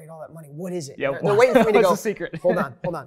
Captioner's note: laughs